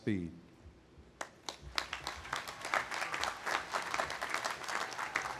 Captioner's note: audience applauding